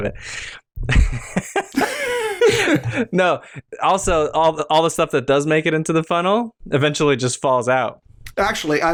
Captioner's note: laughter